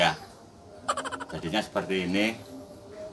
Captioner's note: laughs